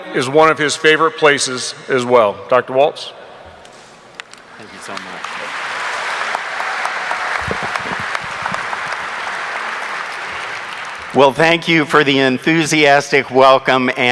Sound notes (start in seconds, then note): 4.4 audience applauding